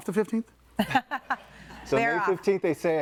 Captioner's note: both laughing